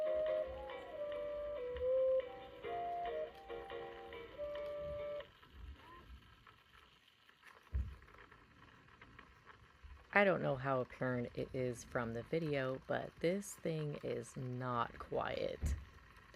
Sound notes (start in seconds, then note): 7.4 muffled grinding noises